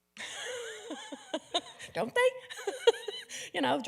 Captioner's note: laughs